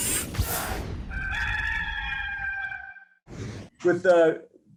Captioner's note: chicken cackling